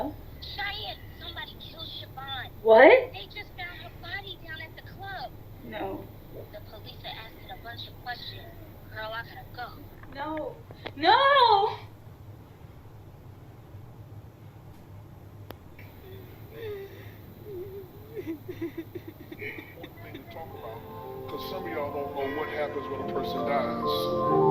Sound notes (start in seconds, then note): 15.8 Cheyanne crying; 21.3 funeral music plays